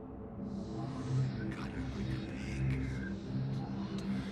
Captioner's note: ghostly Voice